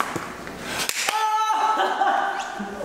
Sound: laughter

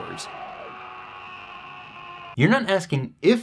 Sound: man screams

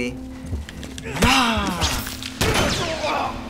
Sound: Joel grunts; gunshot

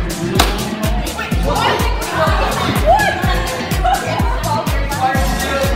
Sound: object launching; students clamoring

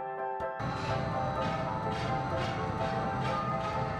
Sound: gears whirring

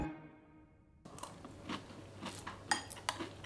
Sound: munching

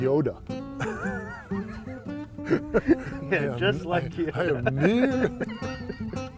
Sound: laughter

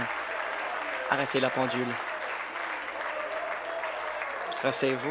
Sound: applause

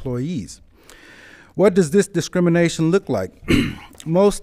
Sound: coughs

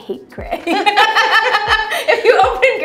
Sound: laughter

